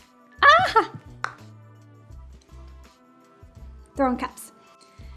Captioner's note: giggles